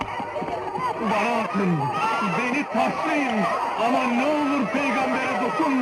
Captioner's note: indistinct shouting